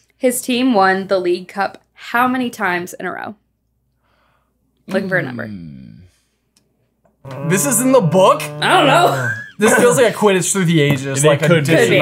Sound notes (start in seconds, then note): 7.2 groaning